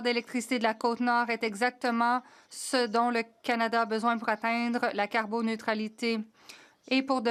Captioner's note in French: voix de l'interprète